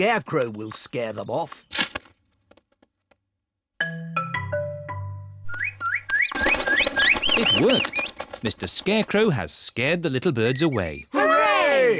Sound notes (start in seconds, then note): 6.2 all tweeting